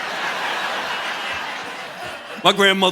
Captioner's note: audience laughing